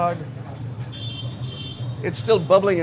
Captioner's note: traffic honking